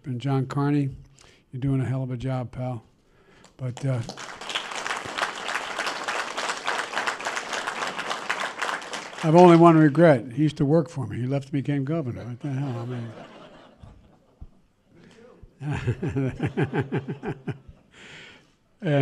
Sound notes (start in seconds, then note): 3.4 applause; 12.1 laughter; 18.2 laughs